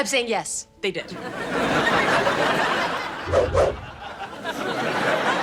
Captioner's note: audience laughing